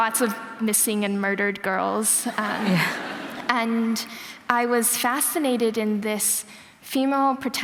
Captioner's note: laughter